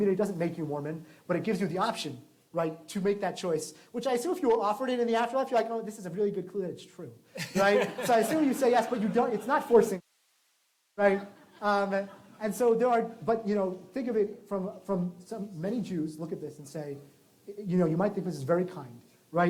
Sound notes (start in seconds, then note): 7.3 laughter